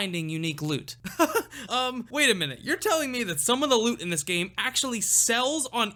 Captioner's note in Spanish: riendo.mp3